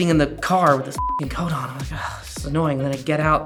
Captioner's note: beep